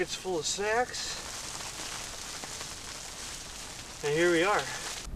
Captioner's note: rain pattering